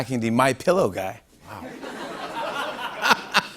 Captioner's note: laughing, claps; polite laughter